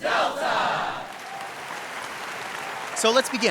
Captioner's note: audience applauds